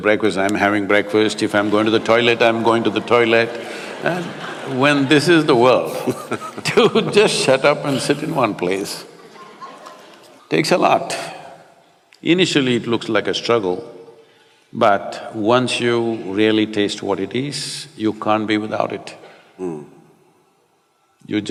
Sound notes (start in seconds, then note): 4.4 laughter; 5.8 both laugh